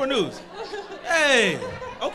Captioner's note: crowd laughs